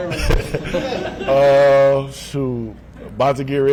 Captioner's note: laughing